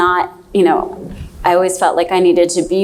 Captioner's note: none